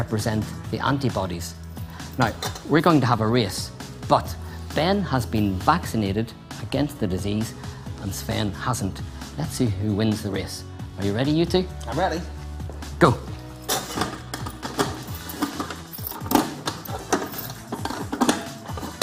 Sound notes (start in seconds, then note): 13.5 lockboxes clank